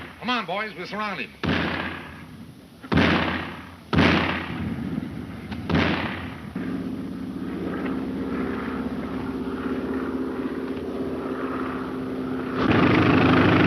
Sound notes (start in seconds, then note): 2.9 gunshots cracking